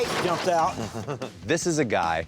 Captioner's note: laughs